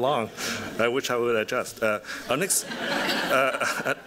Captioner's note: laughter